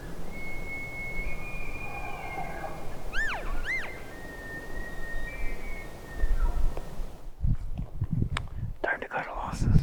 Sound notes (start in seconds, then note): 0.1 elk bugling; 3.1 calf calling; 5.2 elk bugling